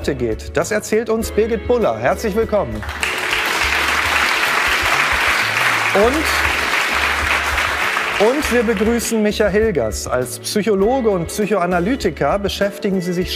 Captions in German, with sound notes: und wie's Ihnen heute geht, das erzählt uns Birgit Bulla. Herzlich willkommen. (Applaus) Und ... Und wir begrüßen Micha Hilgers. Als Psychologe und Psychoanalytiker